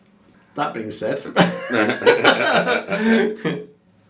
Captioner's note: laughing